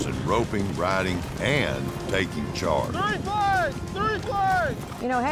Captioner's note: shouting